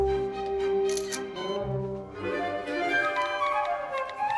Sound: camera clicks

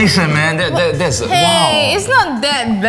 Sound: stuttering

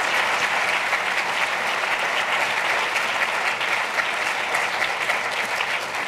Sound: applause

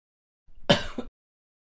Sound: cough

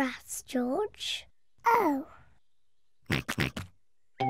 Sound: oinks

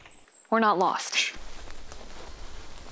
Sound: twigs snapping

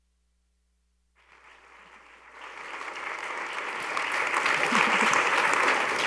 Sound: audience applauding

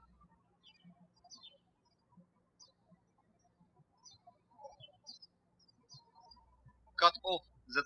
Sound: birds chirping

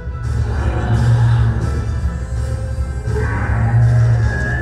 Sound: dinosaur growls

